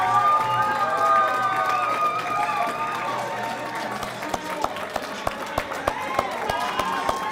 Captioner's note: cheers and applause